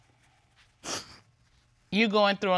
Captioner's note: sniffles